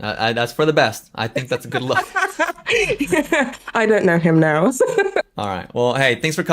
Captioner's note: laughs